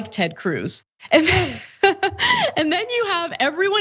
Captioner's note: laugh